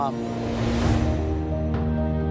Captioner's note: uplifting music; air whooshes